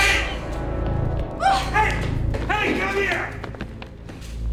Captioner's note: Alejandra shrieks